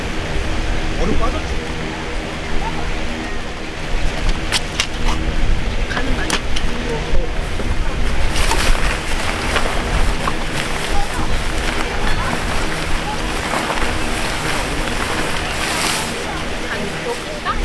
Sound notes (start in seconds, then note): 0.5 the sound of a large fan on the next site